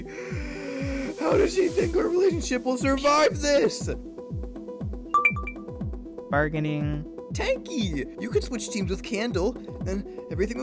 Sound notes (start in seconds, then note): 0.0 sobbing; 0.0 inhale; 5.1 ding